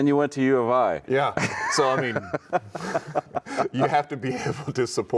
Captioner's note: chuckling